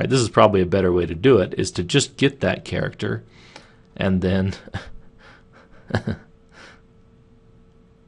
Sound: chuckling

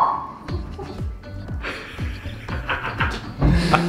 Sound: laughing

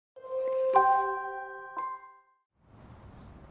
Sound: chiming

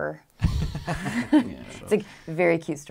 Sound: laughing

